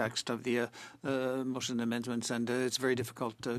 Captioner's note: speaking French